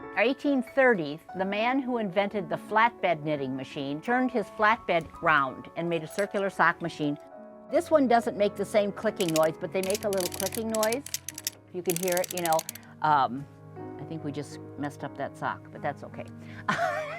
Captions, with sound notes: 1830■s the man who invented the flatbed knitting machine turned his flatbed round, and made a circular sock machine. This one doesn't make the same clicking noise, but they make a little clicking noise. You can hear it, you know. [sound of clicking] I think we just messed up that sock. But that's okay.